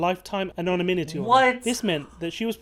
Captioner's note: voice-over